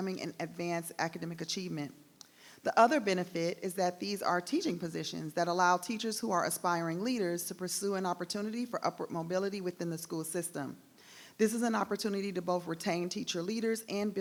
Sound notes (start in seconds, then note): none